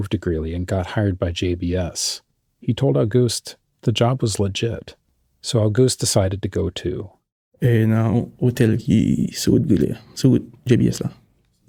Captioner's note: speaking Creole